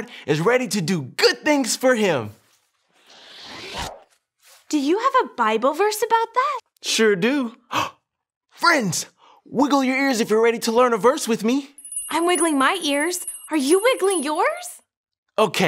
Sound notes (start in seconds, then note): 3.1 whooshing